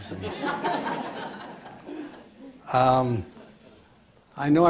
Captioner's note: audience laughs